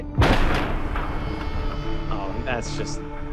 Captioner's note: metal clanking